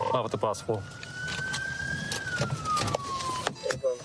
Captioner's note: sirens blaring